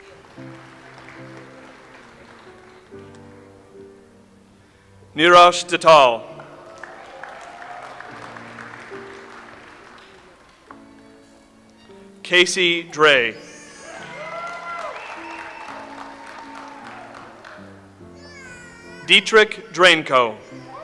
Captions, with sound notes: (audience applauds) Nirosh Dhital. (audience applauds) Casey Dray. (audience applauds) Dietrich Drenkow.